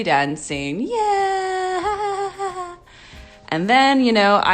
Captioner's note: laughing